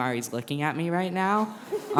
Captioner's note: brief laughter